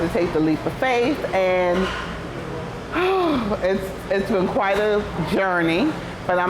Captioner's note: sigh